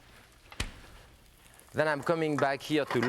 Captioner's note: fridge door slamming; potato pancake sizzling